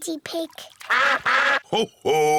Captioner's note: all quack